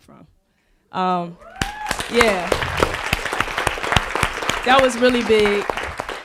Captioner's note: audience applauding